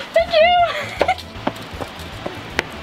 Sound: laughs

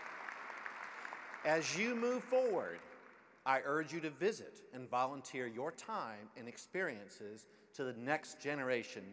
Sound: applause

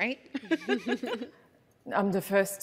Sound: laughing

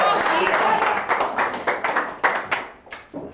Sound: applause

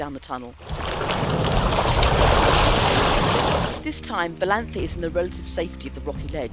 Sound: noise of rushing water

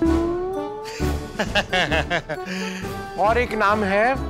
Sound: laughing

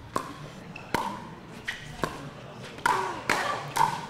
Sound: ball bouncing

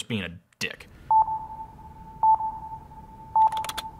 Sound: beeping

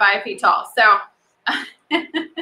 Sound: laughs

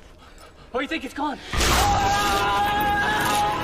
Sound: screams

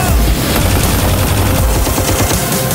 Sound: rapid gunfire

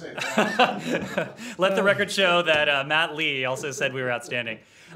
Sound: laughter

